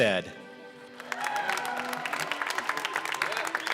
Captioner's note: applause